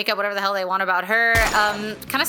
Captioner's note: gunshot